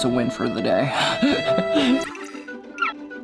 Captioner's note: laughing; playful music